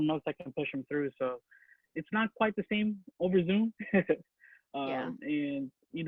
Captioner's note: laughs